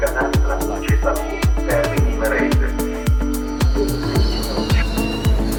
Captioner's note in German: Zug- und Bahnhofsgeräusche